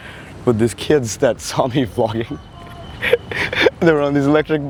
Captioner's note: laughs